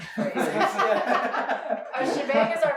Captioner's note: laughing